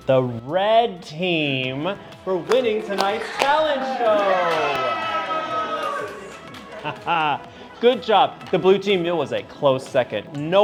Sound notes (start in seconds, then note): 4.3 campers cheering; 7.0 chuckles